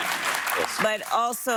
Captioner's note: laughter